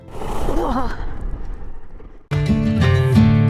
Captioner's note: gasping